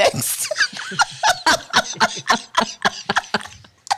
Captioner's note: everyone laughing